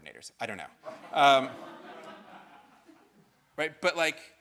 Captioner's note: audience laughing